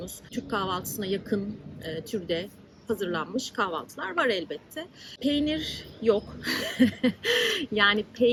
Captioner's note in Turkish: kahkaha